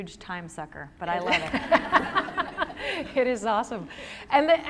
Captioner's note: laughter